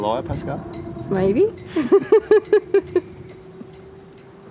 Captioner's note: laughing